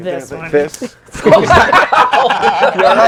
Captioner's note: laughing